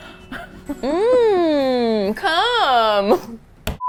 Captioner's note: slaps the table